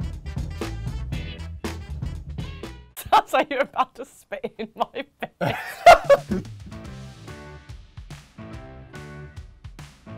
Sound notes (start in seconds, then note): 0.0 upbeat music; 6.2 laughs